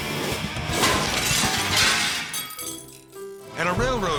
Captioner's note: logo whooshes; upbeat dramatic music; glass shatters